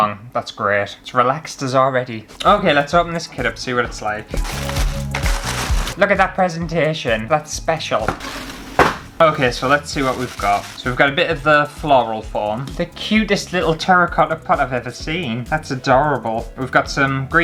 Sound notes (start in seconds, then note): 4.2 tissue Paper Rustling